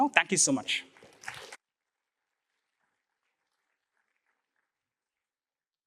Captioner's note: applause